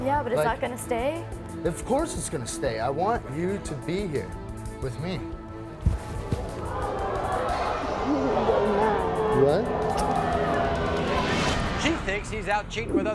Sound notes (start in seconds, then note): 6.6 audience oohs